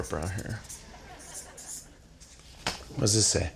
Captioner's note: marker scribbling